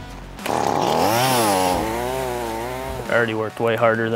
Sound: power saw buzzing

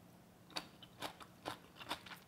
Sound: crunches

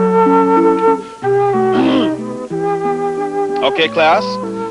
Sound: clears throat

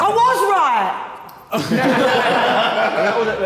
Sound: all laughing

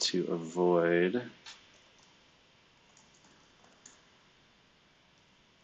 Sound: computer keyboard clicking

